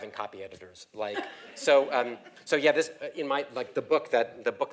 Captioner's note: laugh